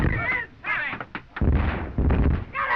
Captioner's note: all shouting